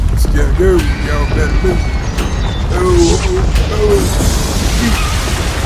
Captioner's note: loud rumbling, people screaming; crashing, explosion